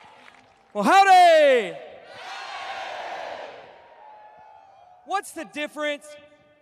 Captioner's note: cheers